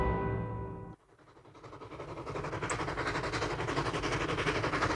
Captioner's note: kereta terengah-engah